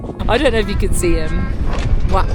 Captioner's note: bellows